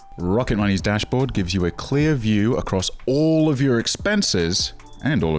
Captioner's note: none